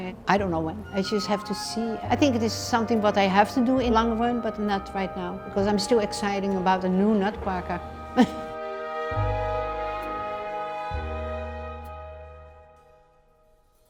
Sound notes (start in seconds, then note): 8.2 laughs; 9.0 orchestral music